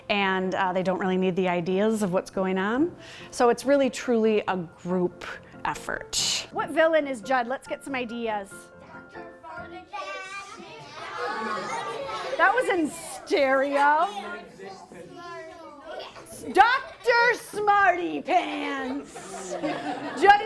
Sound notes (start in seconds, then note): 8.9 audience yells names; 18.8 laughter